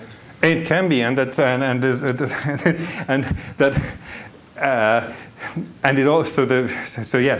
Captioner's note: laughs